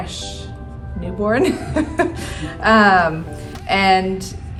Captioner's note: laughing